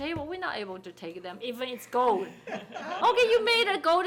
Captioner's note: people laughing